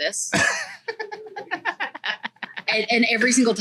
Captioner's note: laughs